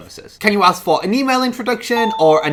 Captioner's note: ping sound